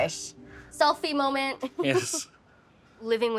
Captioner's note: laughing